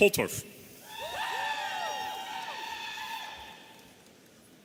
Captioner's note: audience cheering